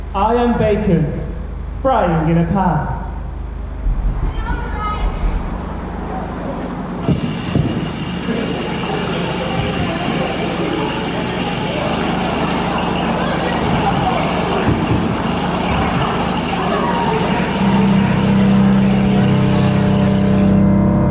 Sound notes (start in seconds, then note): 7.0 sizzling